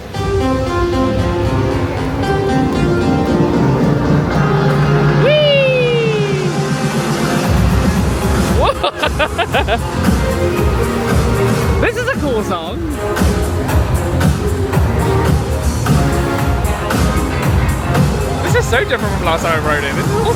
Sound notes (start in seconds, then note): 0.2 upbeat music plays; 8.4 laughing; 13.6 upbeat music continues